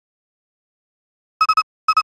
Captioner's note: silence